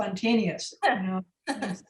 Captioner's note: laughing